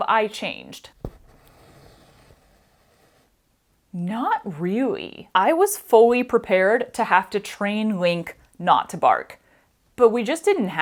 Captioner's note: thread moving